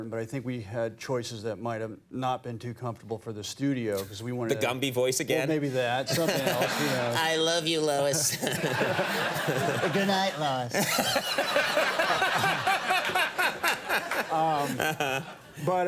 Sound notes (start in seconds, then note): 6.0 Conan and audience laughing; 8.8 Nick and audience laughing; 11.1 Conan, Nick and audience laughing